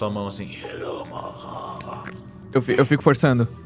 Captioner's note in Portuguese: Grunhido